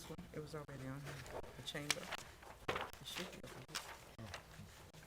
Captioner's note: board chatting quietly